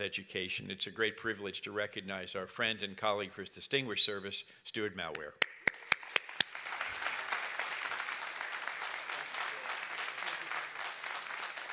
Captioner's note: applause